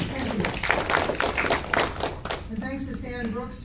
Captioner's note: applause